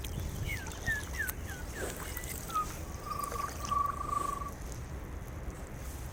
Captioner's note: mimicking Bird Song